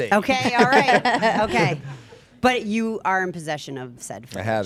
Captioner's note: group laughing